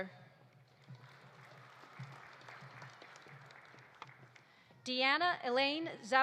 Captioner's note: audience applauding